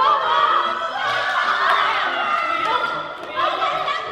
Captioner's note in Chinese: 眾人歡呼